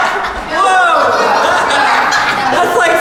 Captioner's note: laughing